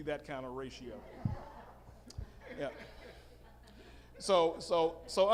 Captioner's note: audience laughing